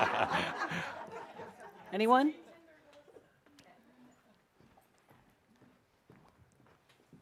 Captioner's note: laughter